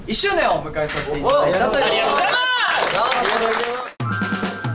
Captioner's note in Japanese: 拍手